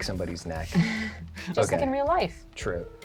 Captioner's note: laugh